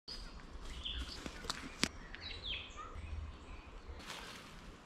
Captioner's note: birds chirping